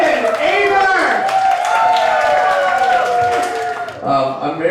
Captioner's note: crowd cheering